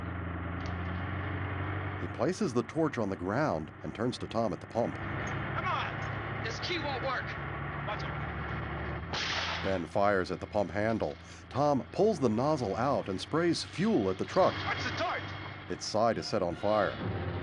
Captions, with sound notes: Come on! This key won't work. Watch out. [gunshot] Watch the torch!